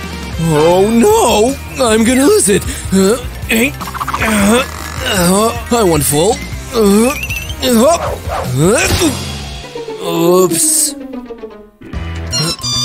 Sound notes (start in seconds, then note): 1.5 grunting